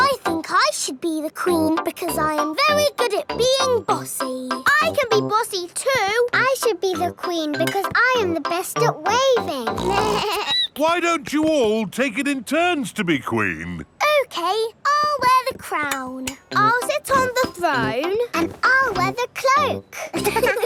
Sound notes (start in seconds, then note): 9.7 snorts; 9.7 bleats; 19.9 laughing